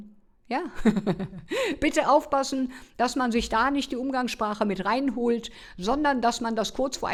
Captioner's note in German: gelächter